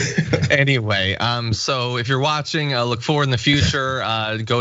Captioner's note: laugh